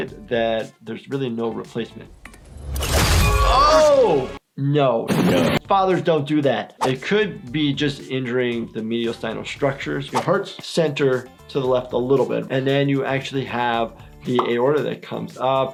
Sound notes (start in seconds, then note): 2.6 spear piercing